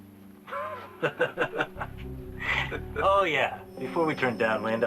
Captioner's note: laughs